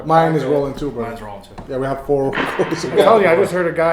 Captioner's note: chuckles